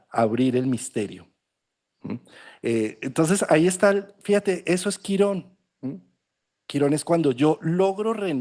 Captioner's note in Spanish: carraspeo